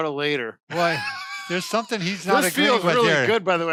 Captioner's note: laughs